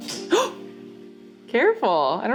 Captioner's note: gasping